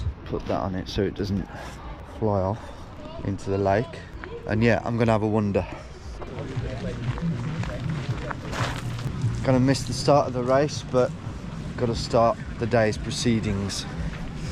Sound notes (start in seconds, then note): 8.3 group chattering; 8.3 upbeat music; 13.2 group chattering